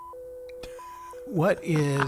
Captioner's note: laughing